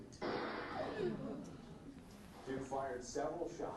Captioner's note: gun fires